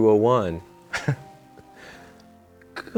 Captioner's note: Andrew laughs